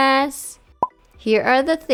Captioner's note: blop